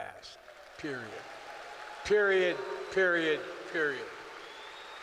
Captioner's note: applause